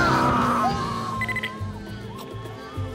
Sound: screaming; beeping

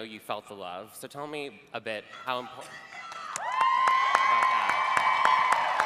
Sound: cheering

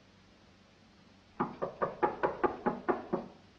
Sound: knocks on door

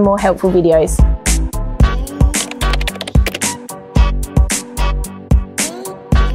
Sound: upbeat music; keys clacking

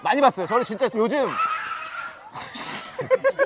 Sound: screaming

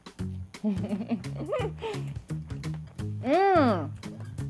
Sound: laughs

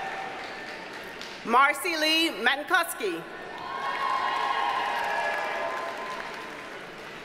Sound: audience cheers and applauds

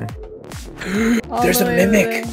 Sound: gasps

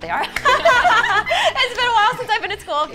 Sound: all laugh

